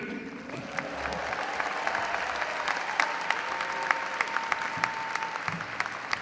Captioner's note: audience cheering and applauding